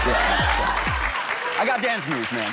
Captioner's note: cheers and applause